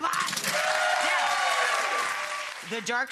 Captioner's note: audience cheering and clapping